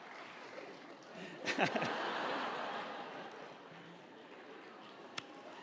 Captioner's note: audience cheering and applauding; audience laughing